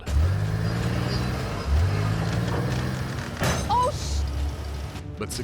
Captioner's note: motor revving; clank